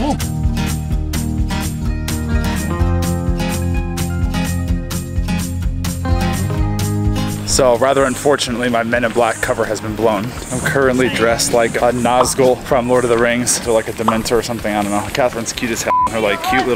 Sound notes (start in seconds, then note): 1.6 upbeat music continues; 12.1 bubble popping; 14.0 bubble popping; 15.9 beep